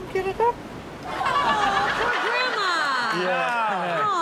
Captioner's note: all laughing